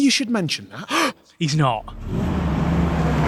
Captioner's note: gasp